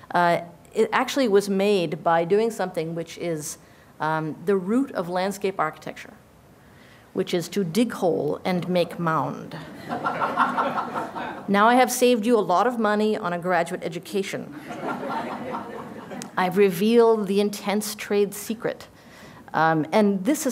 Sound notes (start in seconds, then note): 9.7 laughter